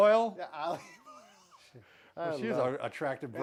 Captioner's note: laughing